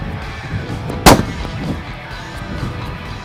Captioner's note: gun Shot